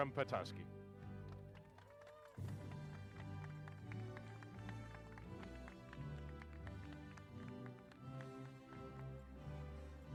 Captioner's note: applause